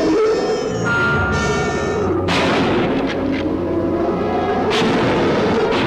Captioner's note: gun firing